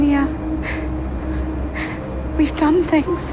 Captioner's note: sobbing softly